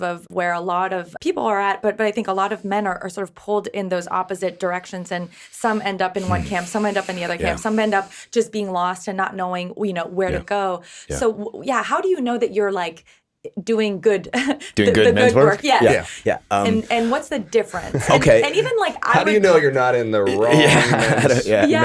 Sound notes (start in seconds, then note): 6.2 sighs; 14.7 chuckles; 19.8 laughs